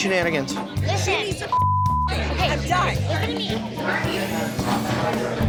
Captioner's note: women fighting